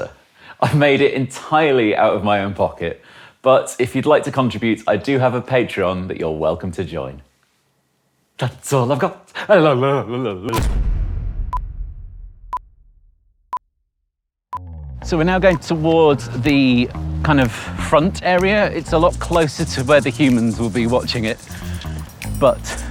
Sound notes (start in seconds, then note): 10.9 dramatic music; 12.0 clock beeping